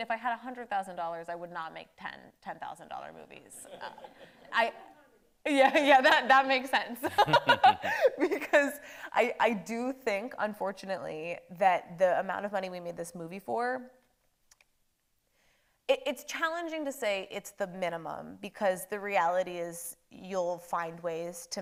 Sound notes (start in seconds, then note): 7.0 laughs